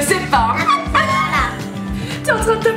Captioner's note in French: rires